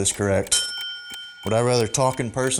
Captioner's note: ding